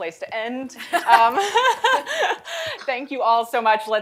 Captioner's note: laughter